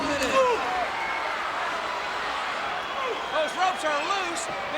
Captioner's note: grunts